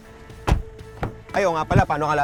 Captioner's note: door thuds